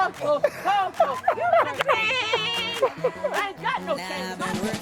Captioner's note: upbeat music; Malcolm laughing